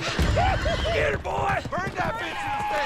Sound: men whooping; horses whinnying

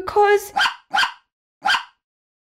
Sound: bark! Bark! Bark!

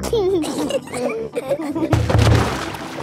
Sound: giggling

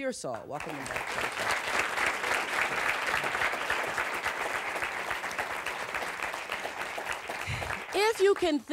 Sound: audience applause

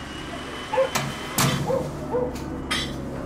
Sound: door closes

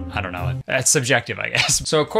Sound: laughs

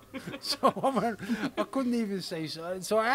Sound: laughs

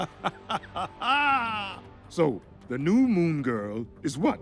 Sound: laughs

